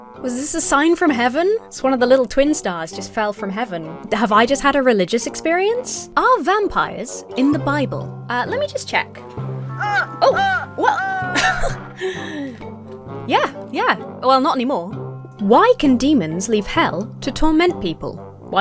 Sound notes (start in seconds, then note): 9.6 gasps; 9.7 vampire laughs; 11.3 giggles